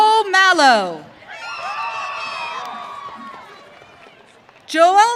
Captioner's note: audience cheering